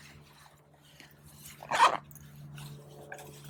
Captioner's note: zipper closes